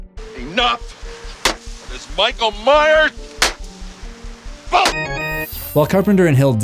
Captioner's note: ax chopping